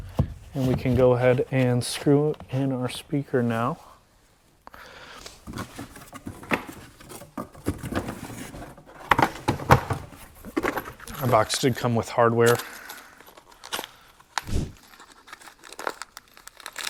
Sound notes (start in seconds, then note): 9.5 box thumping; 12.9 hardware rattling; 14.4 screen whooshing; 16.7 bag crinkling